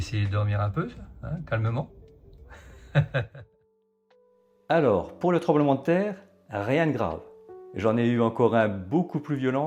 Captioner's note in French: rires